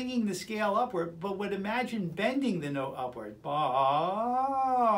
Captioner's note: vocalizing